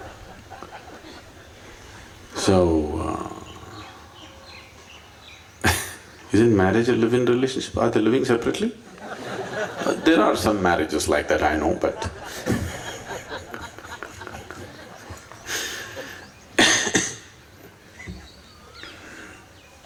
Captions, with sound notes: So (Laughs) Isn't marriage a live-in relationship? Are they living separately? (Laughter) There are some marriages like that, I know, but… (Laughter)